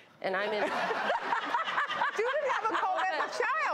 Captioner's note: audience laughs